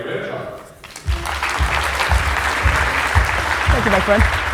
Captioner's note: applause; thumping bass music